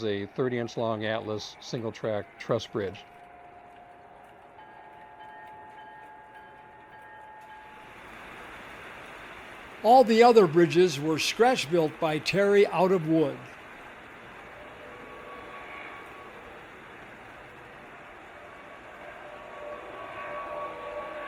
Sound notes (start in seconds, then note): 4.5 bell ringing; 10.5 voiceover